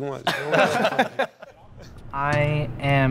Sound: all laughing

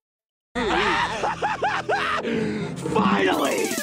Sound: maniacal laughter

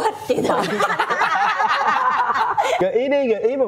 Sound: hysterical laughs

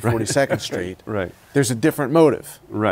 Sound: laughs

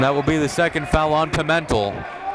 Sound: applauding

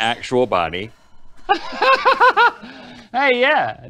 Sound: Link Laughs

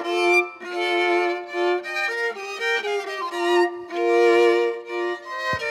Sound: none

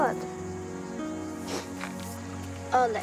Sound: crying

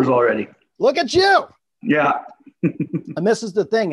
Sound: laughs

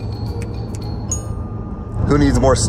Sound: ding

